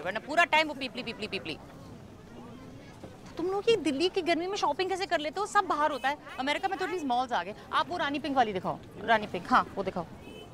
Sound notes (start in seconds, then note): none